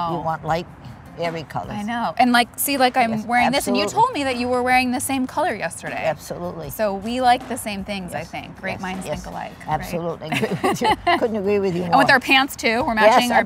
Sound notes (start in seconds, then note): 10.3 laughs